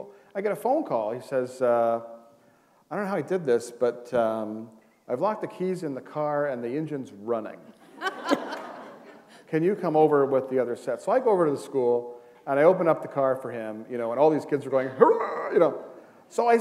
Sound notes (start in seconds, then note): 7.7 laughter